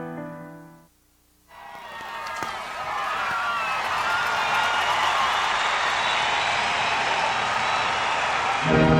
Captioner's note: applause